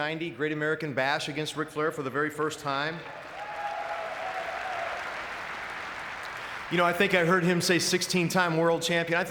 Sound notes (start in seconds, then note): 3.0 audience clapping